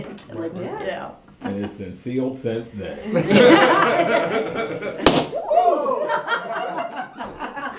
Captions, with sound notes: And its been sealed since then. (laughter) (Balloon POP) OHH! (laughter)